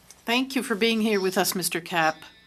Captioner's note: speaking French